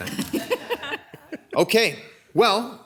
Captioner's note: people laughing